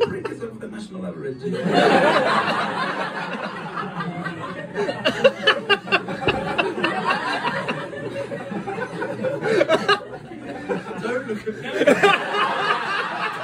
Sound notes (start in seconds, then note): 6.3 peasant laughter